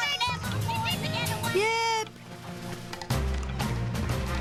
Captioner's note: all laughing; unenthusiastic